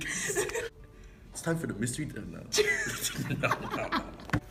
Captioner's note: laughter